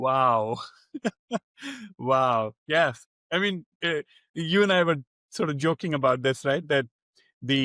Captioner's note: laughs